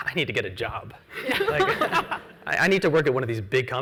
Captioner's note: laughs